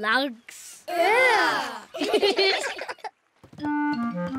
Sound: giggle

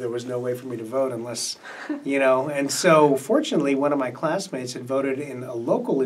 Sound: MC laughs

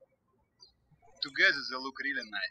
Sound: birds chirping

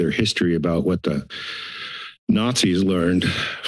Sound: inhales

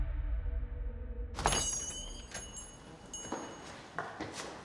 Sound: door jingles

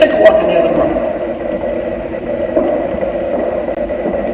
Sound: footsteps

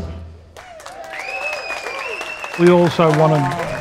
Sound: audience clapping and cheering

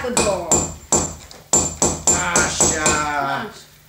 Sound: sound - hit with a hammer

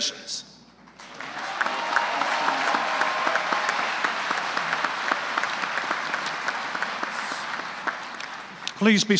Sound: applause

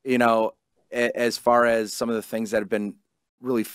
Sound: none

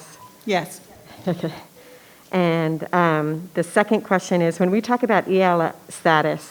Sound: laughs

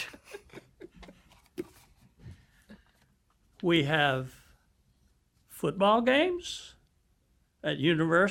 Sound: laughter

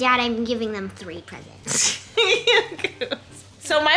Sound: laughing

